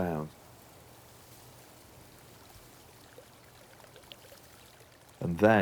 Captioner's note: water running